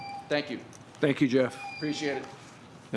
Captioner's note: tone